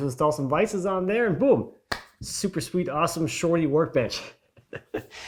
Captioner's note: chuckles